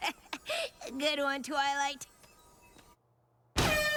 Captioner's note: laughs